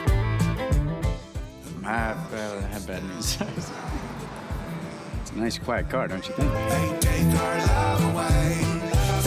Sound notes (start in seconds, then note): 3.3 car whooshes